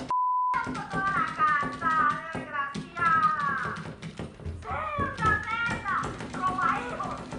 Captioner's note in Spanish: Bip